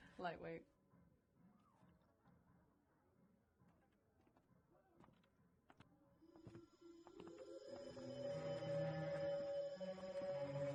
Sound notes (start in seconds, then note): 3.0 footsteps approaching; 6.9 sinister music